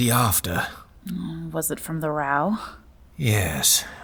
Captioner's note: condescending